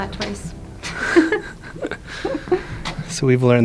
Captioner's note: laughing